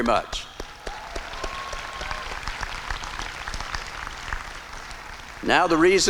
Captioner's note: applause and cheering